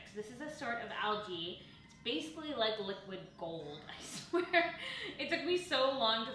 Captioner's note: chuckles